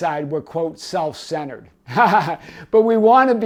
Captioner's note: laughing